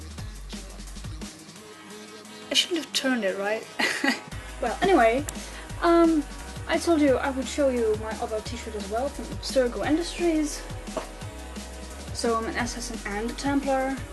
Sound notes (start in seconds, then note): 3.8 laughter